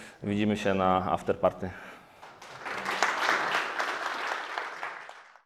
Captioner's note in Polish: Aplauz